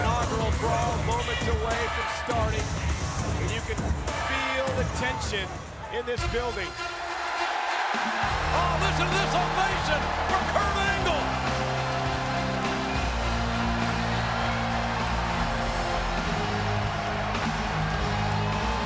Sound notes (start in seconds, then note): 6.8 crowd cheering; 6.8 patriotic music playing